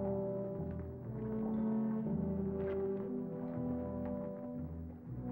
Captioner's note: hooves clopping